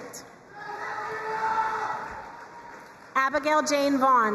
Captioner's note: crowd cheering and applauding